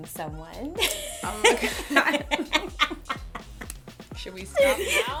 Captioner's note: laughter